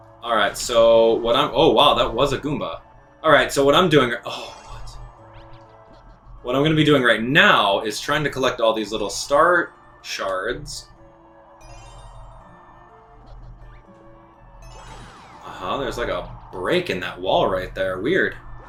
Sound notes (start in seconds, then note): 4.9 instrumental music; 5.2 game sounds; 11.5 instrumental music; 11.6 gaming sounds